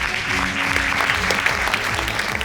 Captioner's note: audience applauding